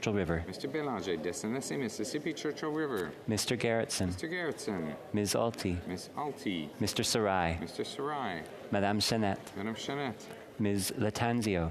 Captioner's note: calling of recorded vote